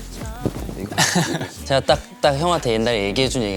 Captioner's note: haha